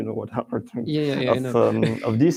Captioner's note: laughs